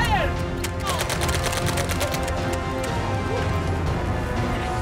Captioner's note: dramatic music; airsoft guns firing; dramatic music